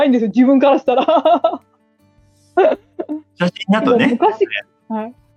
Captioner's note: laughs